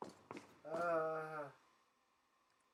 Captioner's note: ahhhh